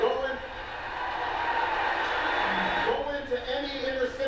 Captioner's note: audience cheers